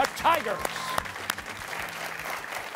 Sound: cheers and applause

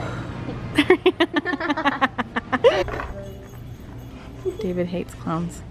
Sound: laughs

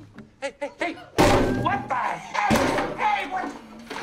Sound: ABED smashing the guitar

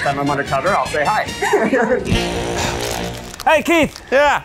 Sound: both laughing

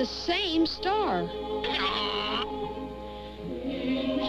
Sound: hee-haw

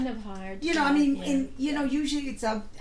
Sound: voiceover

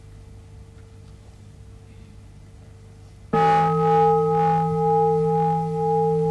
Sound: bell rings

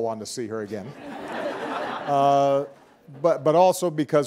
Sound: audience laughing

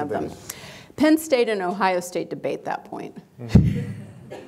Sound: laughs

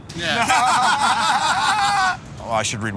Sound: laughter

